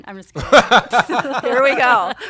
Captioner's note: laughter